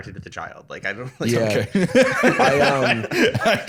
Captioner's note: laughing